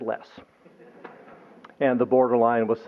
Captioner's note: laughter